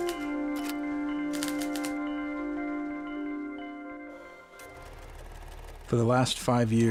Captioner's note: typewriter clicking